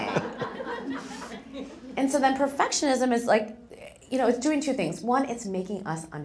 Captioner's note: laugh